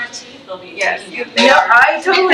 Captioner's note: faintly speaking